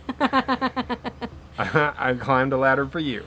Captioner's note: laughs